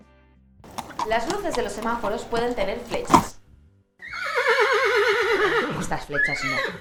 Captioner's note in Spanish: Sonido de relinchar de un caballo